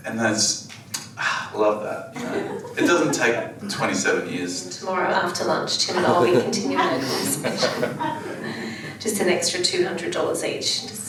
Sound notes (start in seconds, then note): 5.8 laughs; 8.8 audience laughs